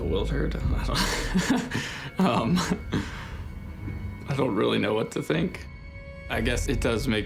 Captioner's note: laughs